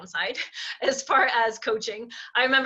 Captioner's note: chuckling